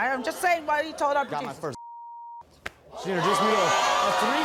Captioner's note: beep